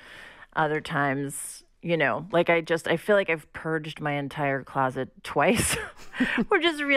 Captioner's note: laughter